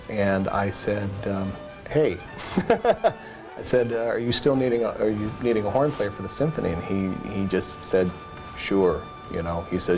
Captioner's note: laugh